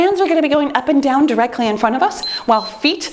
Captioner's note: timer beeps